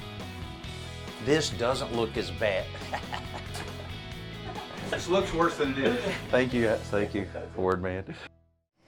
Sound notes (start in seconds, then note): 2.7 laughing